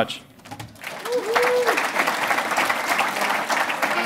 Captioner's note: applause